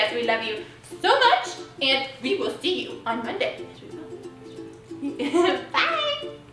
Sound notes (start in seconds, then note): 2.7 upbeat music; 5.0 giggles